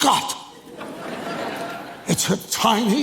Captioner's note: audience laughs